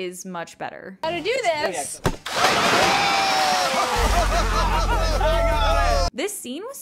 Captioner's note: laughing and cheering